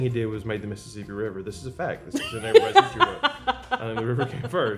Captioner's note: laughs